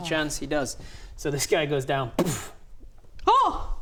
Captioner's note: boof